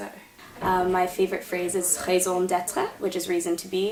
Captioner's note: speaks French